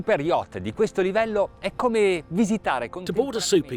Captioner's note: speaking foreign language